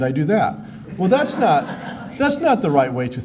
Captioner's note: laughter